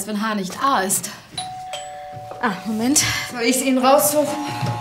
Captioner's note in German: Türklingel